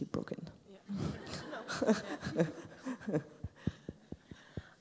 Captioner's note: laughs